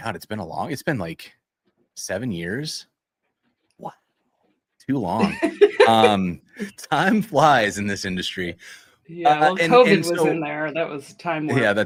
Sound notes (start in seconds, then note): 5.1 laughter